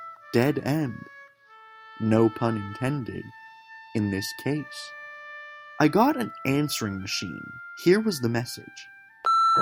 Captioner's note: beep